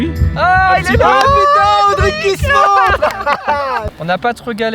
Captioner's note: cheering and clapping